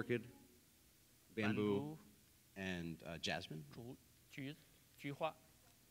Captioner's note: speaking in Chinese